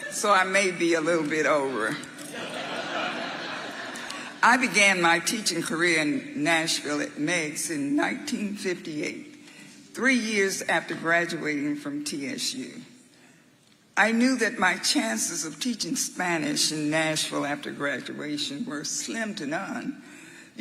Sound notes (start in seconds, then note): 2.3 audience laughing